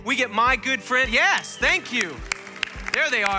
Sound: congregation applauding

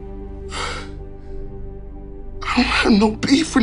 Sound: sighs

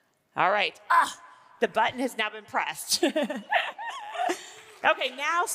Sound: laughing

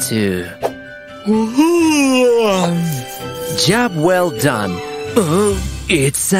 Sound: sounds of stretching

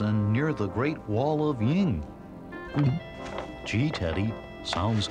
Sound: gulps

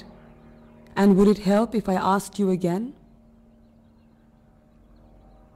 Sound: airplane engine roaring

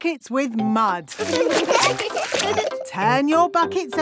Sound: laughing

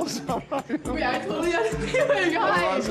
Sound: laughs

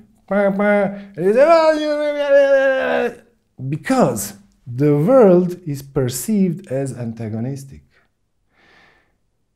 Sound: yelling at other driver

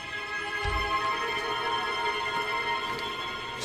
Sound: door opens

